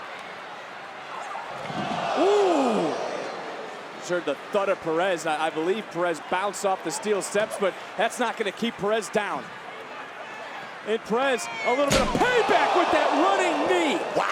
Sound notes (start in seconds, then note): 0.1 crowd chattering; 1.9 crowd oohing; 9.5 crowd chattering